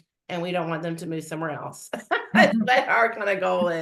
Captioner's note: laughs